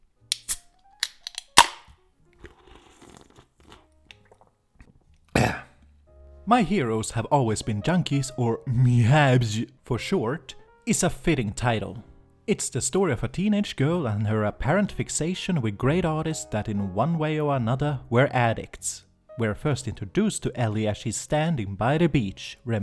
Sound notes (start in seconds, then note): 0.3 opening beer and slurping like a barbarian; 5.3 grunts in drunk